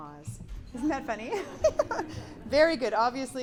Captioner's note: giggles